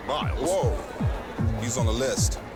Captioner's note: sheep bleats